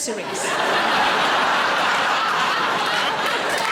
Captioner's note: audience laughing